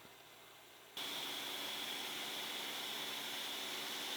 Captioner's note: machine whirring